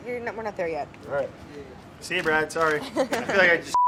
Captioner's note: laughs; beeps